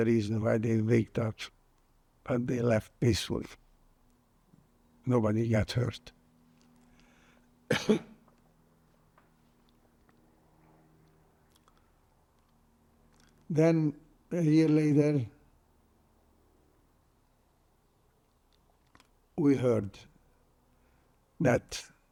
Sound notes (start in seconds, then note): 7.6 coughing